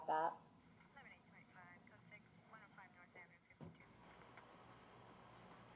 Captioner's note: police radio commotion